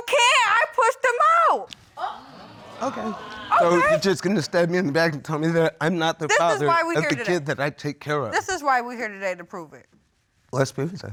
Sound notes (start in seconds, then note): 2.0 audience exclaims